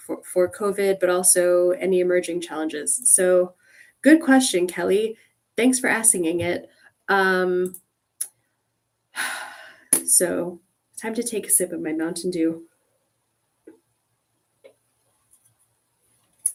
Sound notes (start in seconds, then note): 9.2 sigh